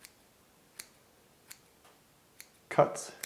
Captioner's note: clipping sounds